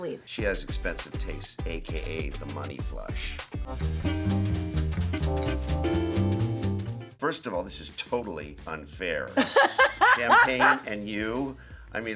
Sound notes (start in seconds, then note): 3.6 upbeat music; 9.4 Heather laughing